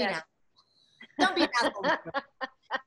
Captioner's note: laughing